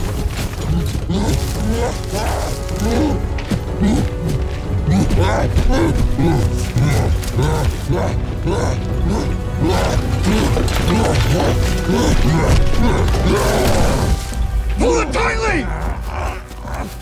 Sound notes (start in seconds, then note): 0.1 suspenseful music playing; 3.7 whimpering; 6.6 cyclops grunting; 13.0 roars